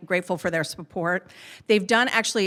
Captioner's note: none